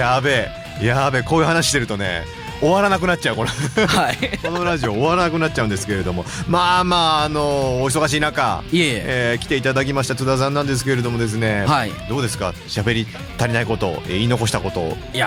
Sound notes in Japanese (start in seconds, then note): 3.4 笑い